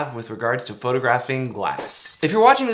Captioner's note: glass shattering